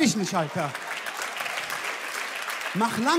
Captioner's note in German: Jubel, Applaus, Gelächter